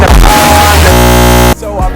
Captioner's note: loud buzzing